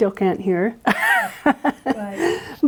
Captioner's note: laughs